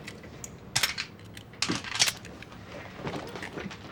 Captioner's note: gun cocking